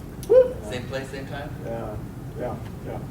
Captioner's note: student whoops